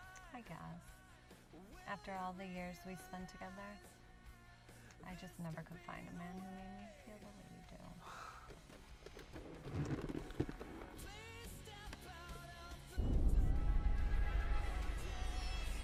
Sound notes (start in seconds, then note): 8.4 leather seats cracking; 13.0 ominous music